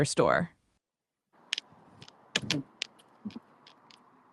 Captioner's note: clicks tongue